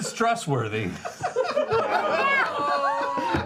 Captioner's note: laughter